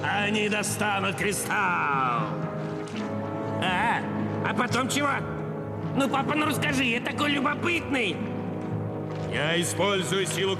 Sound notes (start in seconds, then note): none